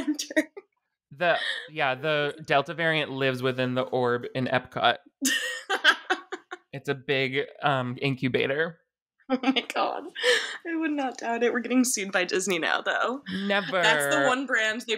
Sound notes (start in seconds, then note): 5.2 laughing